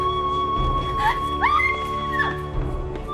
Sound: screams

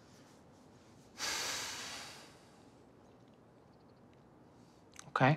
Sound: Tyler sighs

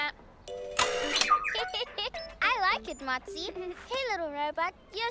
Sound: giggles

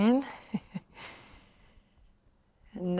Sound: chuckles

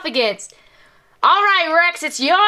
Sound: imitates Jessie's voice

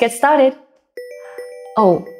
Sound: phone rings

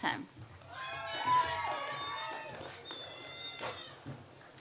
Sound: audience applauds

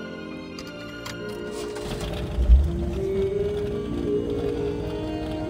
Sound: car cranking

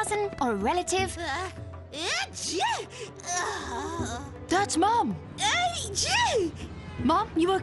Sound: sneezing

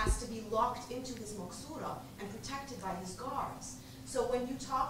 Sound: non-english speech

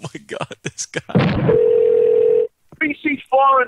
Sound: laughter; telephone Rings

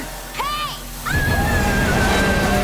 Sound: screaming

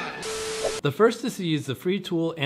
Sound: static

